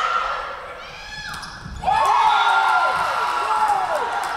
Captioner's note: crowd cheering